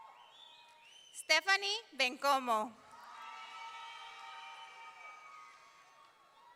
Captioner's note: audience cheering; audience cheering